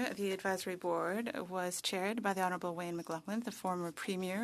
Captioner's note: speaking French